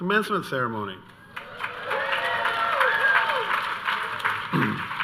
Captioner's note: audience cheering